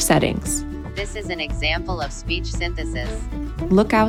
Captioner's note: computerized Voice